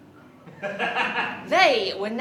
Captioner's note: laughter